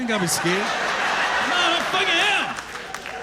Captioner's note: laughter